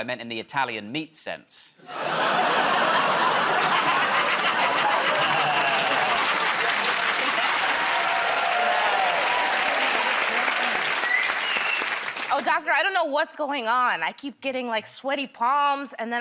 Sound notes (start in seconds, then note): 4.7 laughter; 10.2 cheers and applause